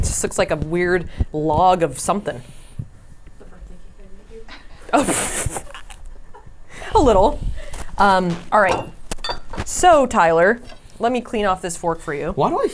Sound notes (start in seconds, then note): 4.4 Safiya laughs